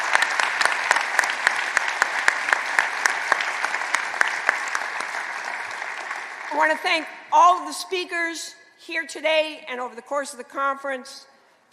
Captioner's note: applause